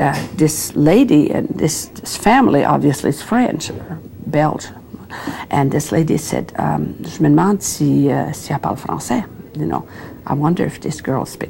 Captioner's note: speaking French